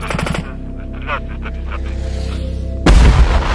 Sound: radio exchange

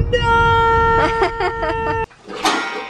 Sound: laughs

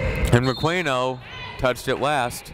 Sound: whistle blowing

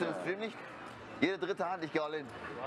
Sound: speak german

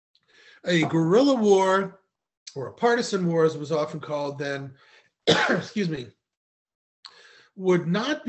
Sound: coughs

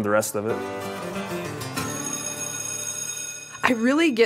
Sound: exciting music; bell ringing

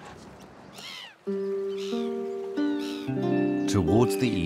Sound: birds cry

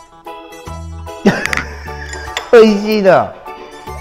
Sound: laughs

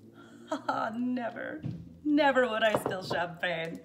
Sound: laughs

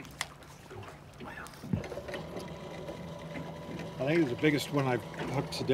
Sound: winch motor whirring

